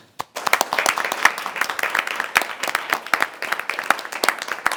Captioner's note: people applauding